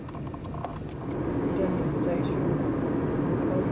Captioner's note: train